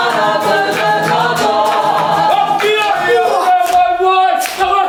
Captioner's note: applause; chanting